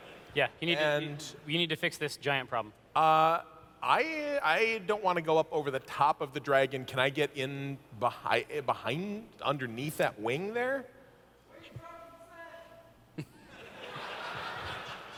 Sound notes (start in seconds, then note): 11.6 audience member yelling; 13.1 laughter